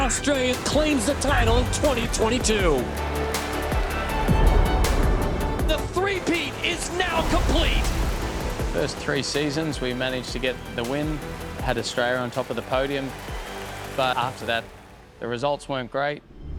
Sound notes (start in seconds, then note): 2.8 muffled applause and cheering